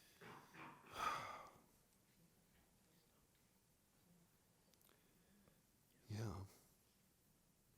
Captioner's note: sighs